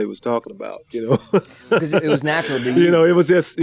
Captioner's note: laughs